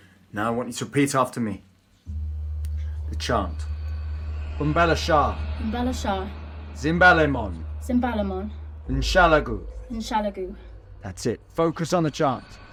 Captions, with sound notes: Now I want you to repeat after me, the chant. (Alan speaking in foreign language) (Emma speaking in foreign language) (Alan speaking in foreign language) (Emma speaking in foreign language) (Alan speaking in foreign language) (Emma speaking in foreign language) - That's it, focus on the chant.